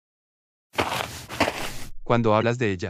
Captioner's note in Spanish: FX - Footsteps - On Multiple Dirt - Walk